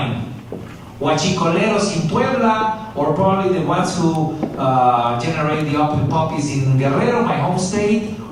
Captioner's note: spanish